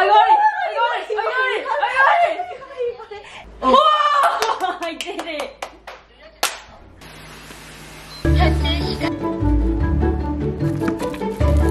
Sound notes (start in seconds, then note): 6.4 clapping in the background